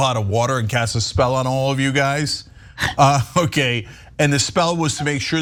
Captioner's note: laugh